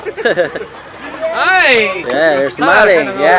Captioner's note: laughter